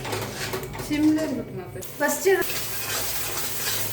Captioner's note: talking in tamil